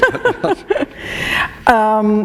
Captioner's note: laughter